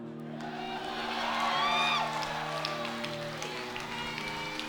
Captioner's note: slow dramatic music; audience cheers